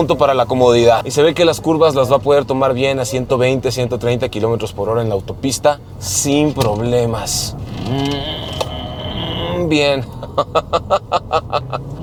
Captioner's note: grunts; laughs